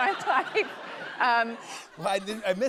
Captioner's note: laughter